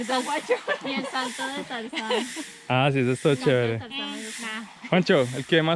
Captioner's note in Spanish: risas